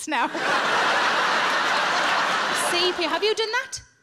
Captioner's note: audience laughing